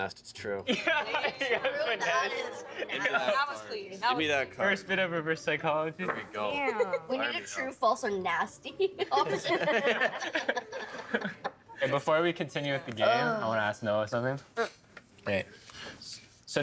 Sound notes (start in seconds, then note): 0.7 laughing; 9.1 all laughing